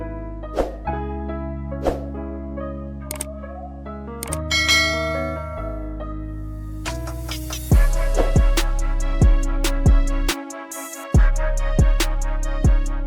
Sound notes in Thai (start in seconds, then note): 4.5 เสียงกระดิ่ง